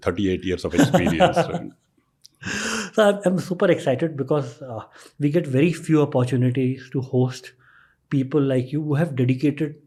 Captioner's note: chuckles